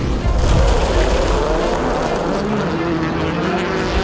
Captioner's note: cars revving